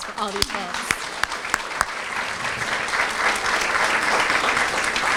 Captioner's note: applause